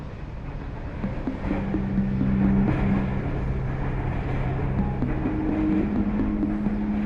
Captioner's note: train rumbling; suspenseful music